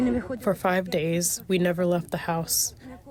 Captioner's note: through translator